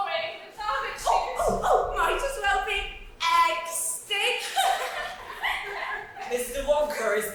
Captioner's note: all laugh